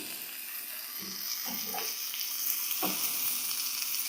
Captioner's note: chicken sizzling